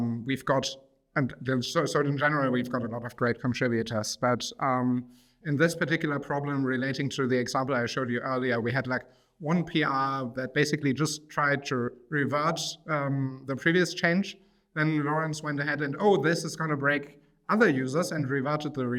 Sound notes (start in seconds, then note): none